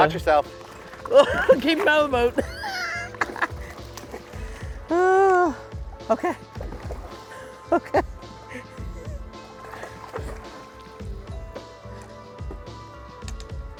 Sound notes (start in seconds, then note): 2.2 laughs; 10.0 progressive music playing